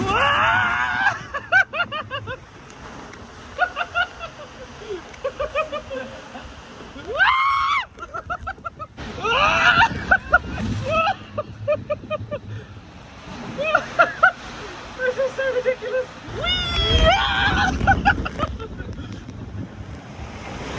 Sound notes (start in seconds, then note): 0.0 laughs; 5.6 laughing; 9.1 laughs; 13.5 laughs; 16.2 screams; 18.8 laughing; 18.8 wind blowing